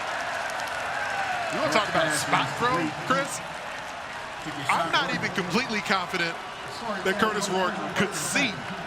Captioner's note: cheering